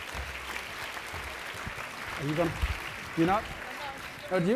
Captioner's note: applause